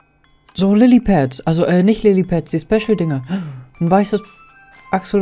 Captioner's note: gasp